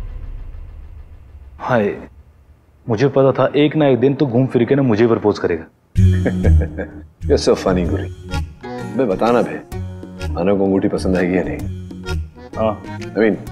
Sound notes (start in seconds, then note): 6.0 Rohit laughs